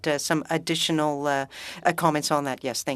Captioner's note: speaking French